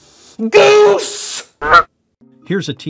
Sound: goose quacks

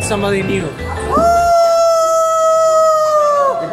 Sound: howling

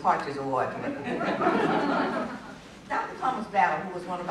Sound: laughter

